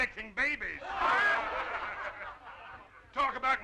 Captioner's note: crowd laughing